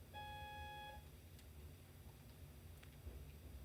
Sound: beeps

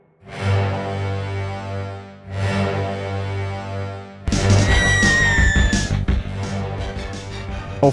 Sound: distant screaming

